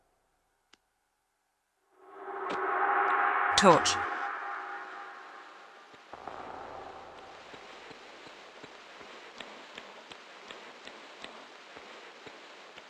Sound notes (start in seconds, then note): 3.0 sounds of sparkles; 7.8 reverb of Lara's footsteps